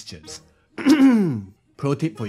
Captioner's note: clears throat